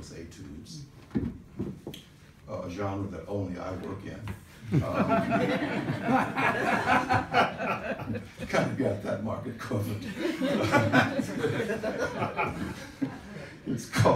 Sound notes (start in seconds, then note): 6.9 laughs